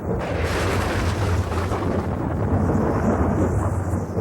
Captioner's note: thunder rumbling